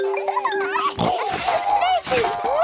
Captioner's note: all laughing; giggles, snorts